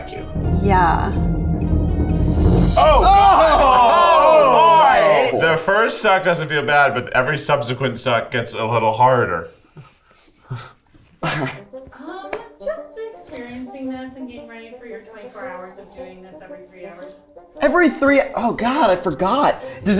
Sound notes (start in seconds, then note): 2.8 both exclaiming